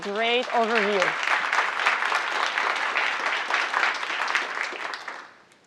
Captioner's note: audience applauding